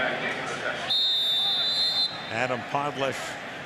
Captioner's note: announcer speaking